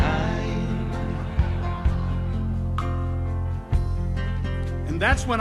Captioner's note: audience laughs